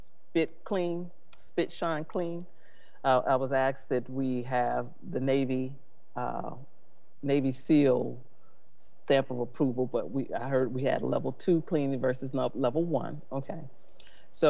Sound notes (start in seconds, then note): none